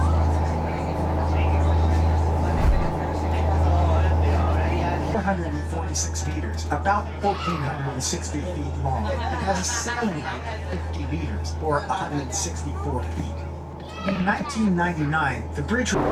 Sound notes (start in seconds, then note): 5.1 indistinct chatter; 5.1 wind